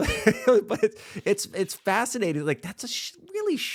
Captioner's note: laughs